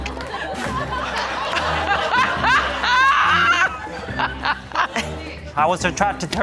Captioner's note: audience gasp and laugh; audience laugh